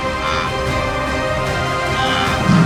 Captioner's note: applause